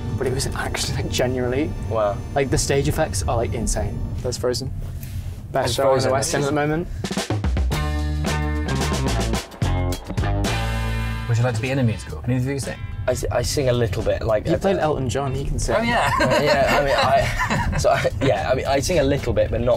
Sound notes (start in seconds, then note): 7.1 upbeat music; 15.8 laughs